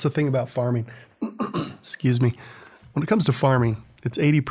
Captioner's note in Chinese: 咳嗽声